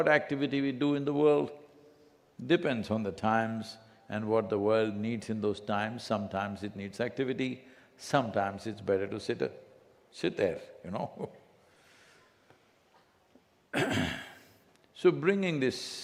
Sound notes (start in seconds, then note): 13.7 laughs